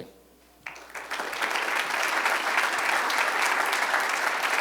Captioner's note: applause